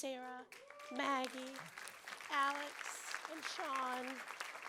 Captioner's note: applause